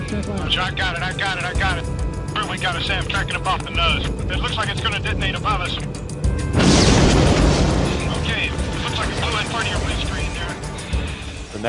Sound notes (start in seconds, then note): 6.5 explosion